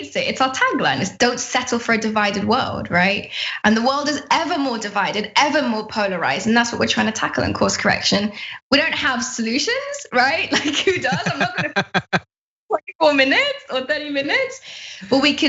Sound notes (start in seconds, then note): 10.4 laugh